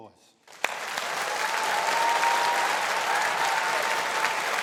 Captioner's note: applauding